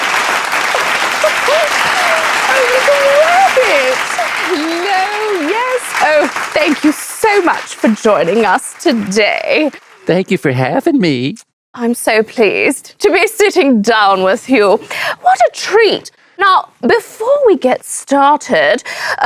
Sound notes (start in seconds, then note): 0.0 audience applauding; 0.6 laughs; 3.3 audience applauding